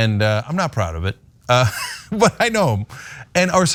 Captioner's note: laugh